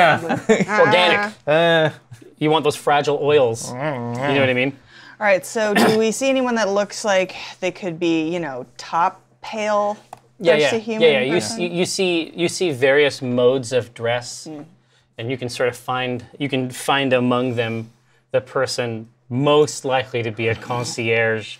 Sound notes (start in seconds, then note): 3.5 nervous noise